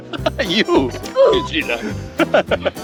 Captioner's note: beep